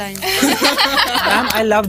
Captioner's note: laughter